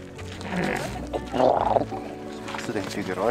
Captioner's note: llama snorts; snorts